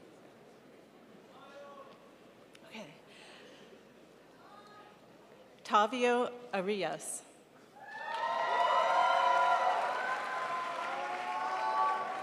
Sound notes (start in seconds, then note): 7.9 crowd applauds